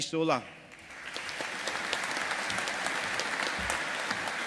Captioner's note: audience applauding